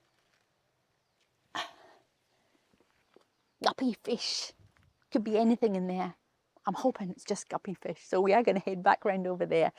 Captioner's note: sighs